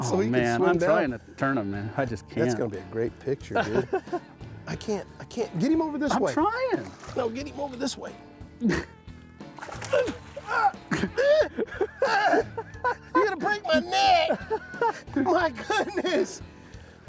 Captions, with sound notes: Oh man, and I'm trying to turn him, I just can't. -That's going to be a great picture, dude. I can't- I can't- get him over this way. -I'm trying! -Well, get him over this way. [grunting loudly] You're going to break my net! My goodness!